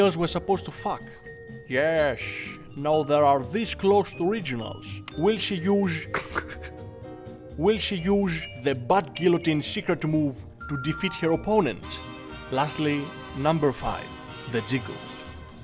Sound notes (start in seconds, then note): 5.9 laughs